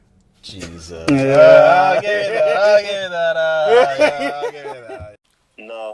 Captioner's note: laughter